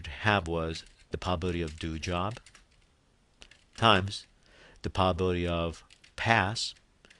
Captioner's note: typing